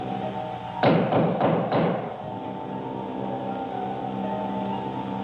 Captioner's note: knocking